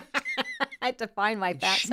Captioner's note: laughing